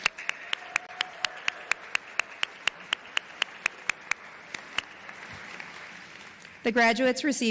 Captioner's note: applause